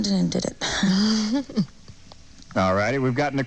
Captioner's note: chuckles